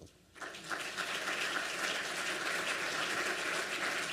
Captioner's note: applause